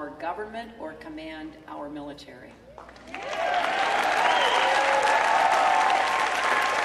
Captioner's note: cheering